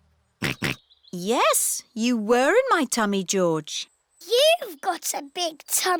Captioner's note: snorts